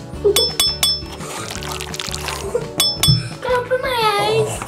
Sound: bell dinging; water squishing

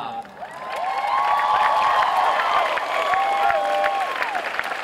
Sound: cheering and clapping

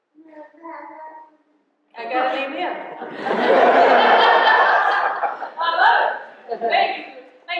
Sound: baby babbling; laughter

